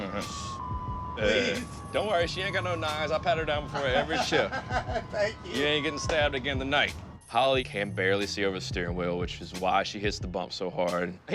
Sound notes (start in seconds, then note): 1.2 laughs; 3.7 laughs